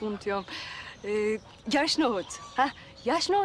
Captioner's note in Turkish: Almanca konuşma